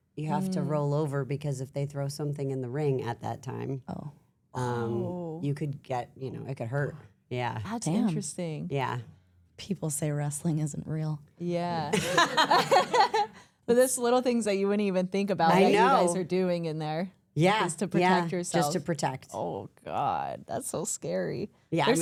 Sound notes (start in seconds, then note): 12.0 everyone laughs